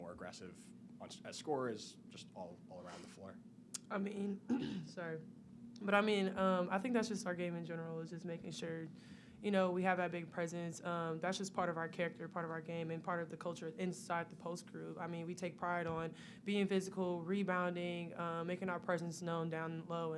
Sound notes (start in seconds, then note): 4.4 clears throat